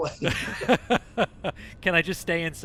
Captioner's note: laughter